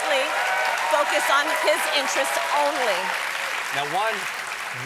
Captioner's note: applause